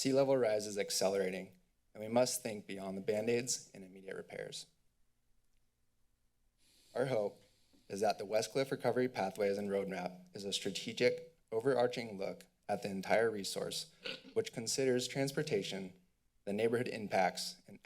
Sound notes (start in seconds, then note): 4.9 pause